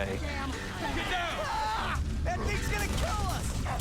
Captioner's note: screams